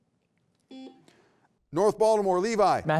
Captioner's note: beep